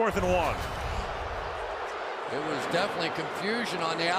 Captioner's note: booing